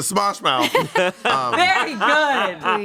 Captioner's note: everyone laughs